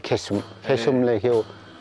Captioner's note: limbu dialect